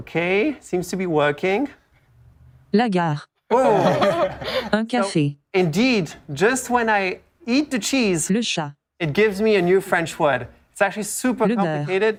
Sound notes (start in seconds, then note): 5.3 speaking French